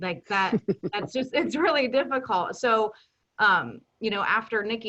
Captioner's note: chuckles